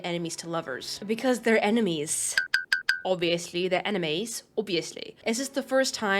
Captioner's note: blinking sound